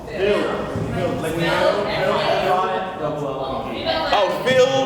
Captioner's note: crowd answers